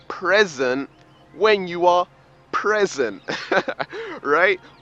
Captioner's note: laughs